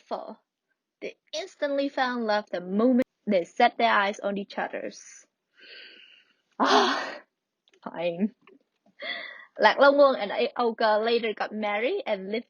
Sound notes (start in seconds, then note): 6.6 sign